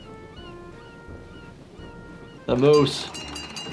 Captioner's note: birds squawking; mellow music